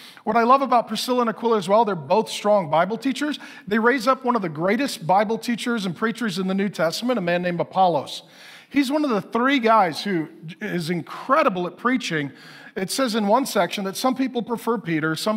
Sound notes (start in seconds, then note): none